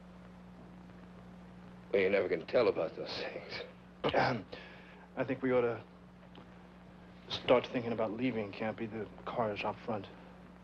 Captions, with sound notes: Well, you never can tell about those things. (Sam clearing throat) - I think we oughta start thinking about leaving, Campy. The car is out front.